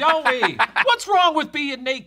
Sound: laughing

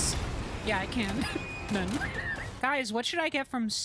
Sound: laughter

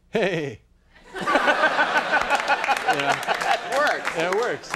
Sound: laughs

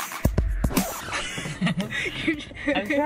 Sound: laughing

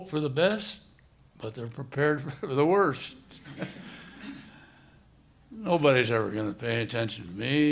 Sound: soft laughter

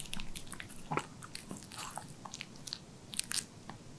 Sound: smacking his lips

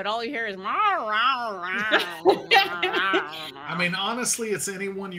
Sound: imitating cat meowing

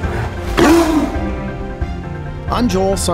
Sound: tiger roars

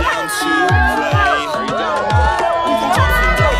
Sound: yells

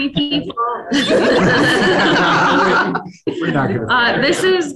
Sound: people laugh

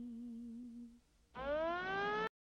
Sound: siren blaring

